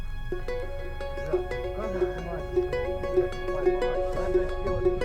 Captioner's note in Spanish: audio hablado en ucraniano